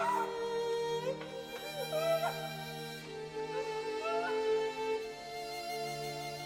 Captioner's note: moaning, music continues